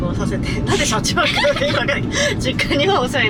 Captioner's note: laughs